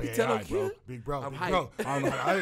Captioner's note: laughs